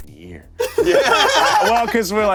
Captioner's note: everyone laughs